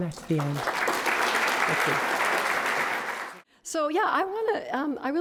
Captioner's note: applauding